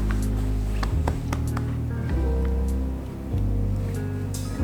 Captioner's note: hand tapping